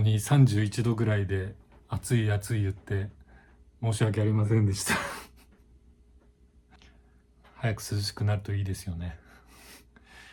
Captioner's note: laugh